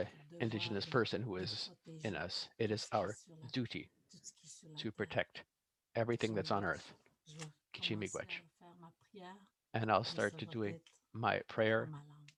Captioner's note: foreign language